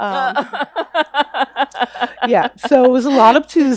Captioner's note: laughs